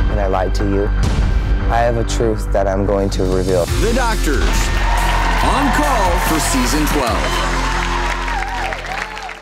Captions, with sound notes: and I lied to you. I have a truth that I'm going to reveal. The Doctors on call for season 12. (applause)